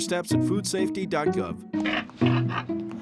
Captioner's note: oinking